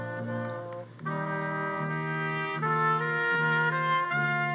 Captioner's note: attendees applauding